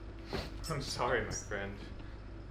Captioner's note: Alfred squeaking in fear